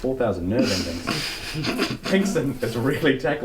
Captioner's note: snorting